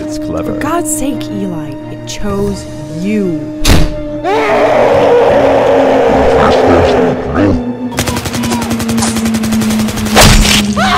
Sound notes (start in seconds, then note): 0.1 distant siren; 3.6 door opening; 4.2 distant siren; 4.2 monstrous screaming; 6.0 distant siren; 8.0 automatic gunfire; 10.1 stabbing; 10.1 automatic gunfire; 10.1 distant siren